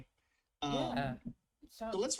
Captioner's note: sarcastically